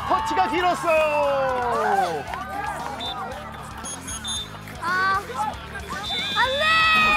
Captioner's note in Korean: 호루라기 소리